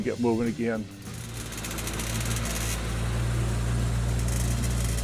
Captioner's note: engine rumbling